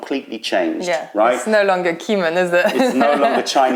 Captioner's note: laughter